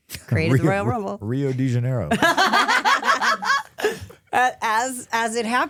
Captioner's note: laughing